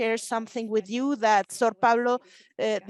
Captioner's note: speaking Spanish